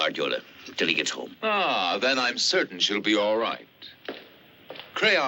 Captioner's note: sarcastically